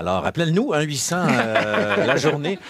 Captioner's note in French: rires